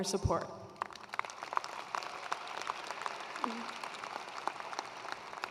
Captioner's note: attendees applauding